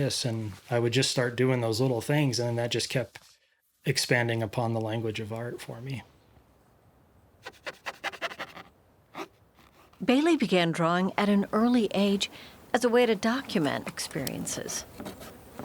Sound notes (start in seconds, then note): 7.4 brush scraping